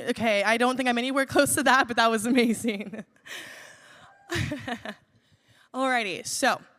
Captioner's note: laughs